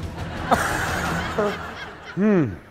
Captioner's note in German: Gelächter